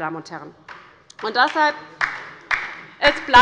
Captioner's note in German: Beifall bei der LINKEN